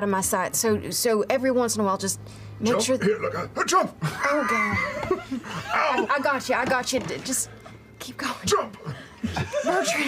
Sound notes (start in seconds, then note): 4.1 sounds of Bertrand struggling